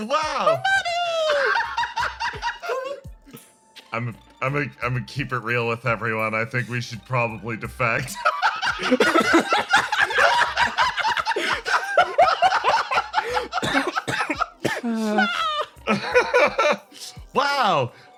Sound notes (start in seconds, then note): 0.4 laugh; 8.1 cackles